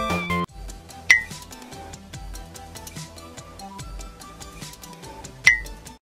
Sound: blink! blink!

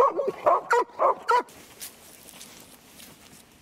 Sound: dogs bark

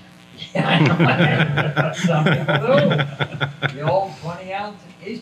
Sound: everyone laughs

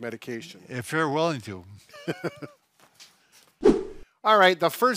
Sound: laughs

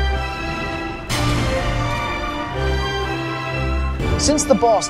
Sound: ring

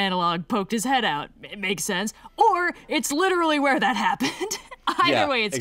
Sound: laughs

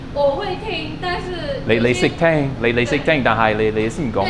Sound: mandarin

